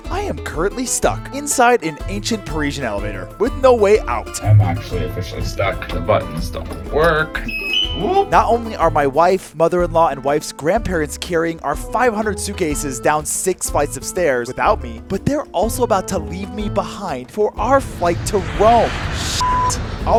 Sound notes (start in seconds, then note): 7.5 buttons beep; 19.4 beep